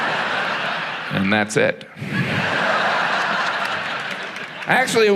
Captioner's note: audience laughs